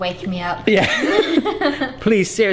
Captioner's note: laughs